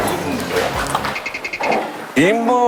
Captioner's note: Scratch